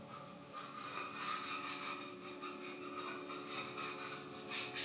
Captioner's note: hand scrapes